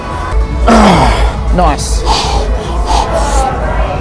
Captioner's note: grunting